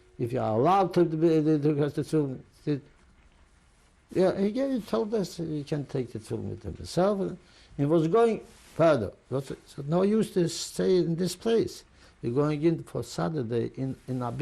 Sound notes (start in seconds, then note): none